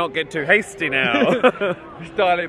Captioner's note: both laugh